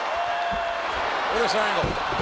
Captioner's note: audience cheering